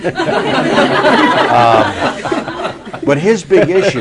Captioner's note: laughter